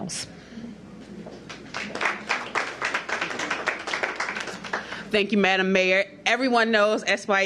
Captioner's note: applause